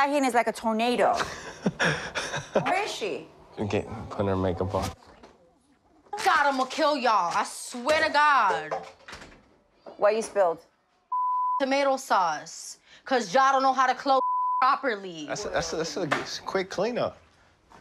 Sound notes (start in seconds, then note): 1.2 laughing; 14.2 beep